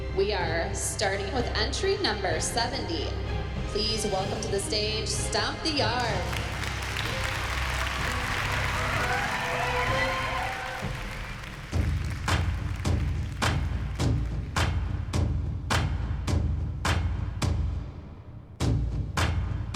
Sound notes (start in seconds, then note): 6.5 applause